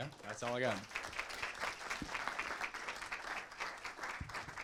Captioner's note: applause